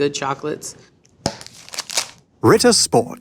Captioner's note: wrapper tears